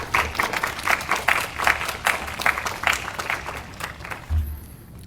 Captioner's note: audience applauding